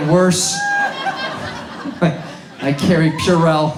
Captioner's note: audience laughs